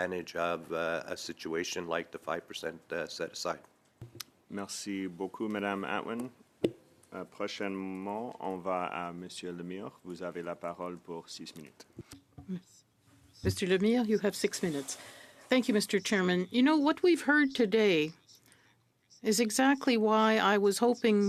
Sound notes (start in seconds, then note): 7.9 speaking French